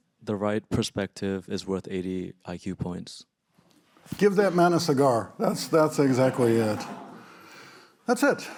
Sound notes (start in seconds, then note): 5.4 audience laughing